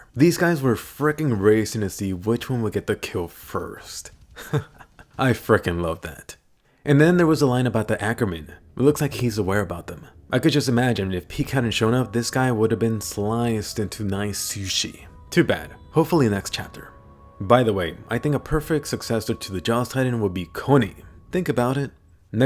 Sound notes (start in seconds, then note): 4.3 laughs